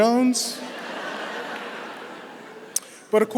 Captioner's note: laughter